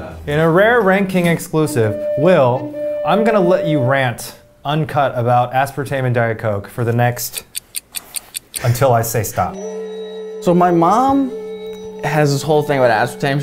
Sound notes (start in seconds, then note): 7.3 clock ticking